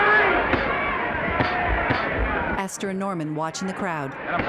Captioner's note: crowd shouting indistinctly